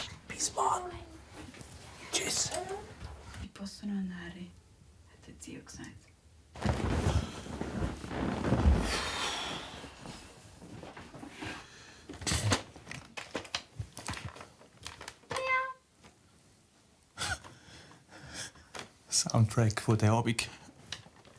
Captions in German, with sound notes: (Flüsternd) Bis morgen. Tschüss. "... posso andare", sagte Zio. (Stimme aus dem Klavier) Miau. Ein Soundtrack, der diesen Abend ...